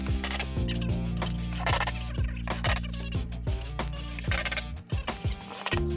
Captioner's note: tape fast forwarding